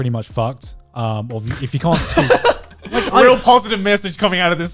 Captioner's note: guys laughing